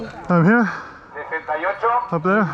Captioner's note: speaking foreign language; loud speaker announcing in foreign language